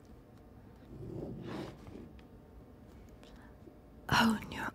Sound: smooth scraping of pen on paper

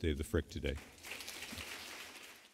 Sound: audience applauding

